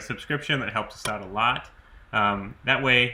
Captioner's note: button clicks